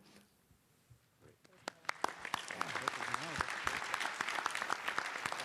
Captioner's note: applause